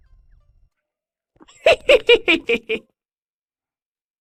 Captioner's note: chuckles mischievously